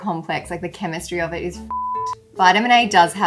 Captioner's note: beep